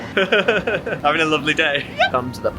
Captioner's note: laughing